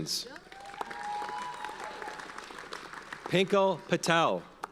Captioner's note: audience cheers and applauds